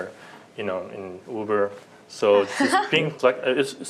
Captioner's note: laughter